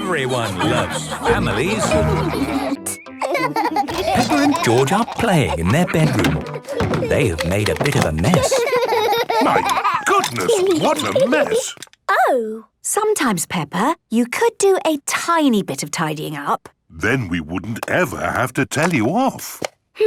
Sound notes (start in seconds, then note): 2.7 laughing